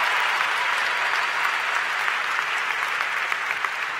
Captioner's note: cheers & Applause